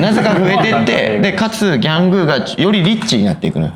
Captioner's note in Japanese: 笑い